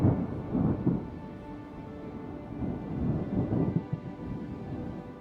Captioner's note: thunder